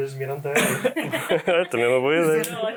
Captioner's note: laughs